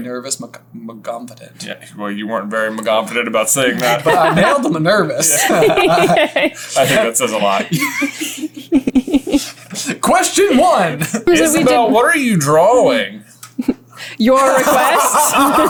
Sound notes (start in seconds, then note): 7.2 laughter